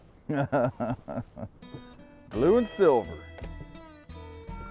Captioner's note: laughing